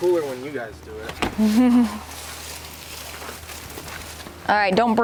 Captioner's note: chuckles